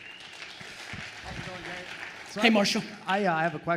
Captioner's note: attendees applauding